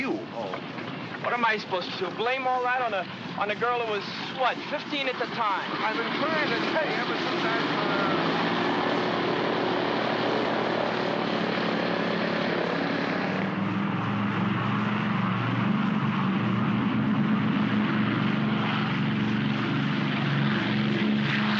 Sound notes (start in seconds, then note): 5.7 aircraft rumbles loudly; 9.7 grumbles; 10.2 aircraft rumbles loudly; 13.2 aircraft rumbles down runway; 21.3 aircraft rumbles